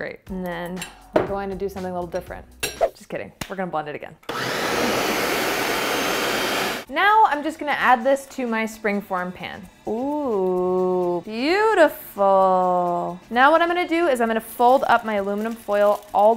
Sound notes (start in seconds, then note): 4.3 blender whirring